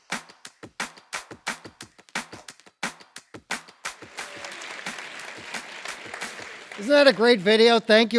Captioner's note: applause